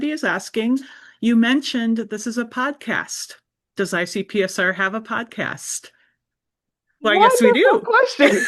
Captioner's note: both laugh